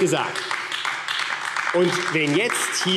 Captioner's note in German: Beifall AfD – Zurufe